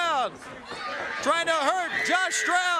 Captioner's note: crowd cheering